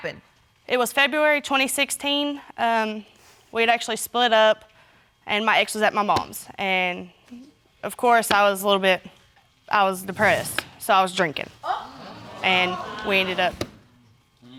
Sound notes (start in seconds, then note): 11.6 audience exclaiming